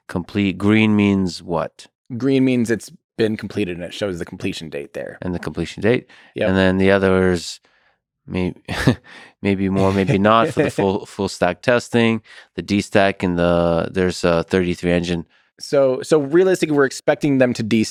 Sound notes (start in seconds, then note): 9.7 Tim laughs; 9.8 Lex chuckles